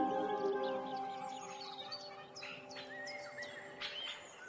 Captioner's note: birds chirping